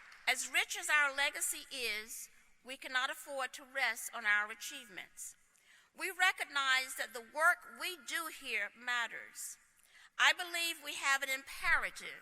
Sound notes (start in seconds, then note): 0.0 applause